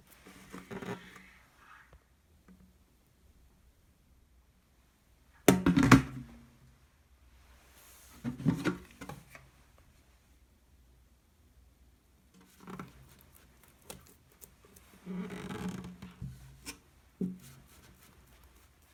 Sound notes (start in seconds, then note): 15.3 folding